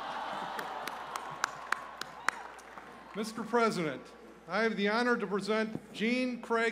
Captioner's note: applause